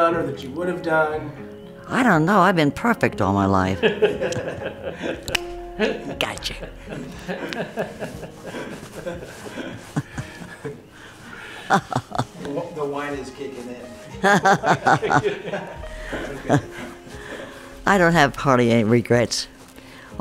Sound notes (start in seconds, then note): 3.8 men laugh; 6.7 all laugh; 14.2 all laugh